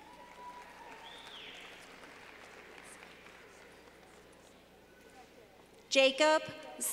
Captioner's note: clapping